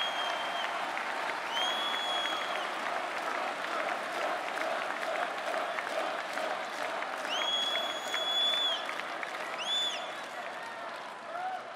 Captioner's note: cheering and Applause